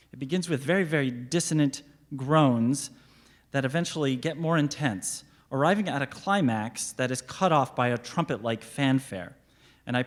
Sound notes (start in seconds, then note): none